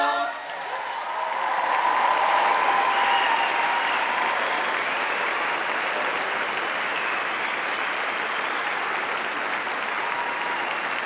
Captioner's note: applause